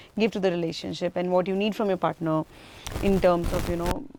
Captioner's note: microphone rustling